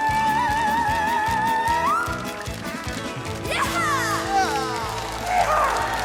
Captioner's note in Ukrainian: оплески